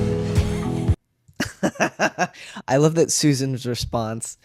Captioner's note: laugh